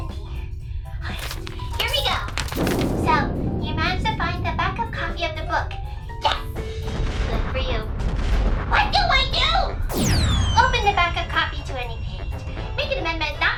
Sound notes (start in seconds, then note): 1.0 page flipping; 9.9 whistle of a missile